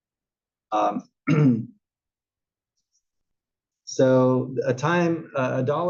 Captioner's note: cough